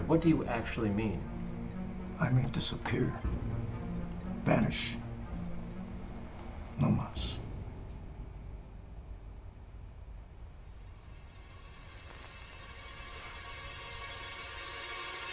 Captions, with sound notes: what do you actually mean? - I mean, disappeared, vanished, (speaks in a foreign language). (suspenseful music)